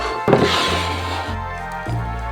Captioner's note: bowl sliding